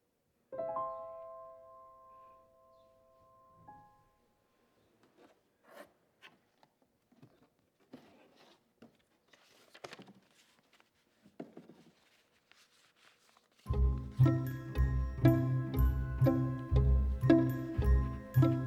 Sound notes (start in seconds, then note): 0.5 gentle music; 8.7 papers rustling; 13.6 gentle chimes music